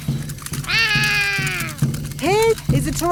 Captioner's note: roaring